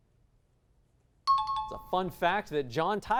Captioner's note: high-pitched tones